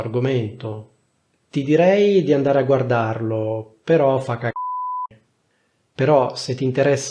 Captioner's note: beep